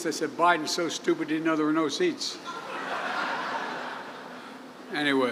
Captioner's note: laughter